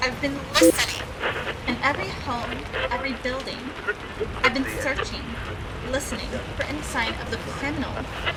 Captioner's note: beep, Static, Voice Quality Decays; static, Radio Scanning